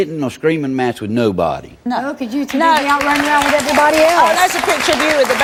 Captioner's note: audience applauds